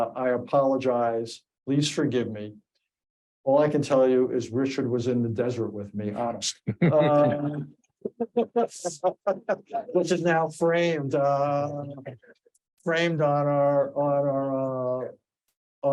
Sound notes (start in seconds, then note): 6.5 all laughing